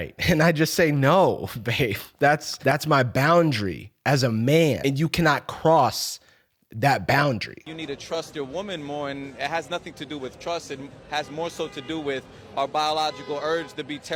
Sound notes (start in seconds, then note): none